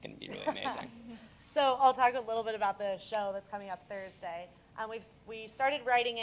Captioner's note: laugh